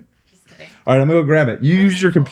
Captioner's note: laughing